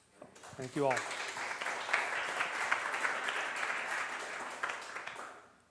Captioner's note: applause